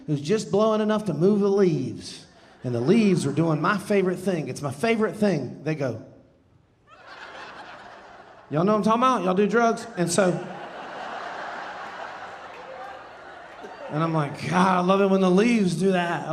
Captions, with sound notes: it Was just blowing enough to move the leaves. And the leaves were doing my favorite thing. It's my favorite thing. They go... (audience laughing) Y'all know what I'm talking about? Y'all do drugs? And so... (audience laughing) And I'm like, "God", I love it when the leaves do that,